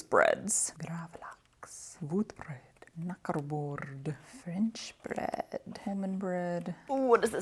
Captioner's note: muttered ever quieter